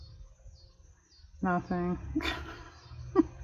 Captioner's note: laughs